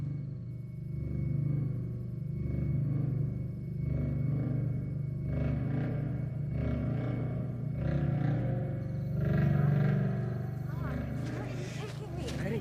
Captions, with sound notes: (insects chirping) (gentle music) (insects chirping) - Mark, where are you taking me?